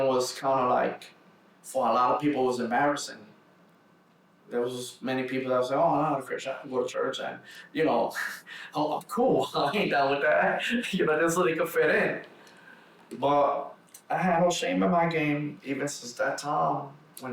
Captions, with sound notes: was kind of like, for a lot of people it was embarrassing. There was many people that would say, "Oh no, I'm not a Christian, I don't go to church." And you know, "I'm cool, I ain't down with that," (laughing) you know, just so they could fit in. But I had no shame in my game even since that time,